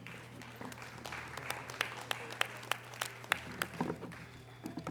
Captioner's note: audience applause